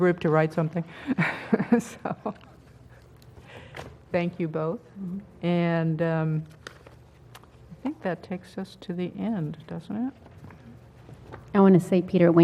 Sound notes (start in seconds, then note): 1.2 laugh